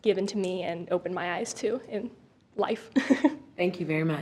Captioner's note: chuckles